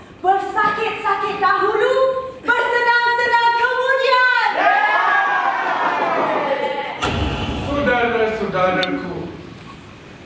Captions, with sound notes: We work hard and we endeavor… and a better future will be our thanks.’ [ Animals cheer ] [ SFX: Spotlight change ] My fellow comrades!